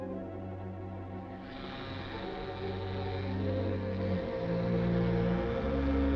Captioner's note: buzzing noise of scanning googles